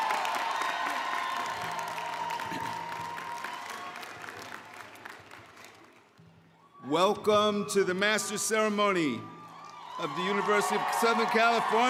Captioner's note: cheering